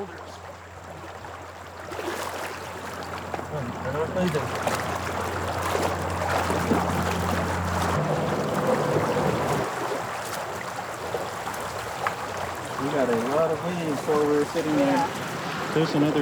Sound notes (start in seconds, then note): 2.0 water sloshing